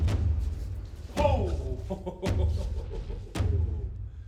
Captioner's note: laughs